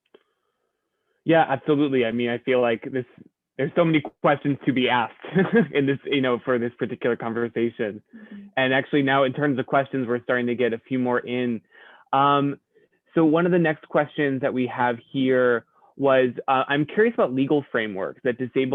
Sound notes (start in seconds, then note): 5.2 laughter